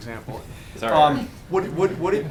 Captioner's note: laughter